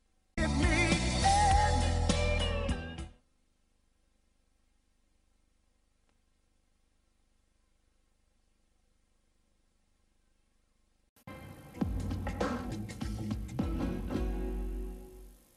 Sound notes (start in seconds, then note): 3.9 VHS static; 11.2 90s synth music plays